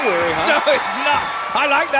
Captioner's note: audience cheering